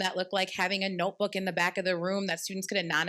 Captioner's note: none